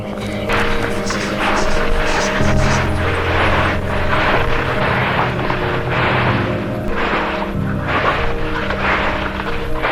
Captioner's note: whispers